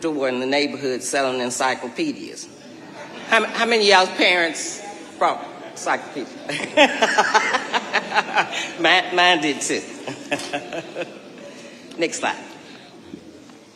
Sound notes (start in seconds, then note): 2.7 audience laughing; 6.5 laughing